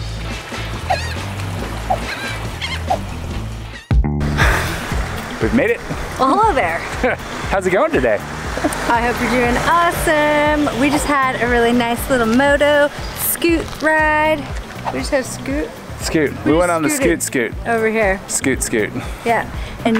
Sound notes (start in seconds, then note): 0.0 water lapping; 0.3 bird chirping; 6.9 laughs